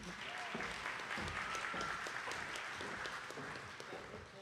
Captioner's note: attendees clapping